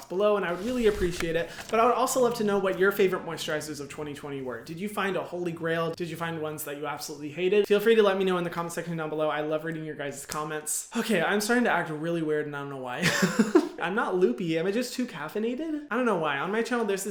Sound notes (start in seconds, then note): 13.0 laughs